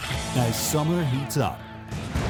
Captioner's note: voiceover